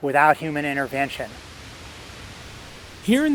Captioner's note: leaves rustling